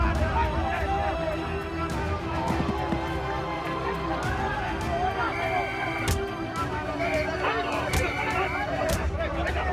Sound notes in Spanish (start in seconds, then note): 1.9 Golpes; 5.1 Silbato